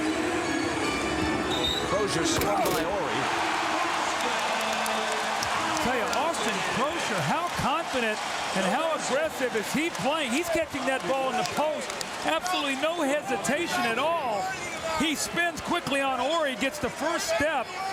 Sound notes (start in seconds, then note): 1.3 whistle blows